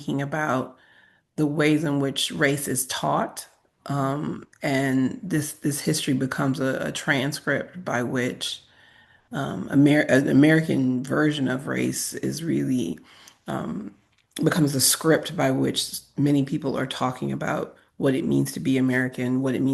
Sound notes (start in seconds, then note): none